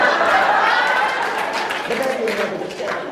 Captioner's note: laughs; applauds